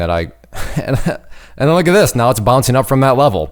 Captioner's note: chuckles